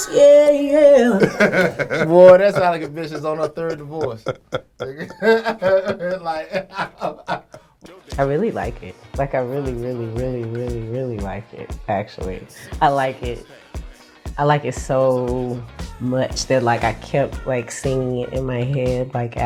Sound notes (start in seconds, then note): 6.3 laughs